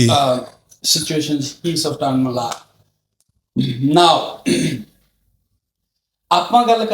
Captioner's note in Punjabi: ਗਲਾ ਸਾਫ਼ ਕਰਨ ਦੀ ਅਵਾਜ਼